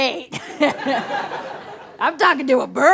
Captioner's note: laughs